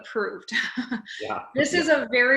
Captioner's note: laughing